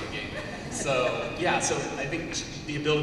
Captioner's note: laughter